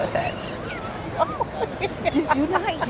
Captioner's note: laughter